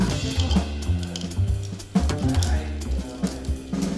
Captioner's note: pills rattle